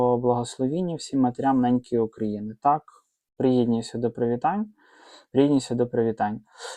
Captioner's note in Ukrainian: сопіння